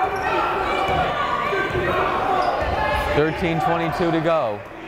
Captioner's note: yelling